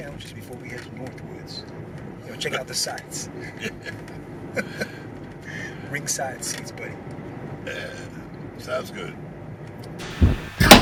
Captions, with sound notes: to north woods, you know, check out the sights? - Yeah. (chuckles) - Ringside seats, buddy. - Yeah, sounds good.